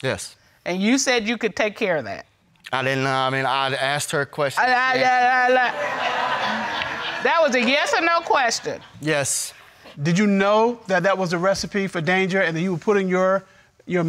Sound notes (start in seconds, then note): 5.6 audience laughing